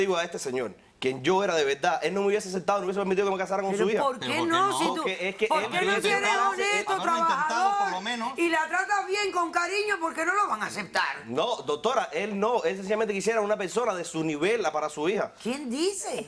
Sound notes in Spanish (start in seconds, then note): 6.0 Hablan al unísono